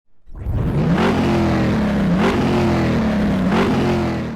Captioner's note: engine revving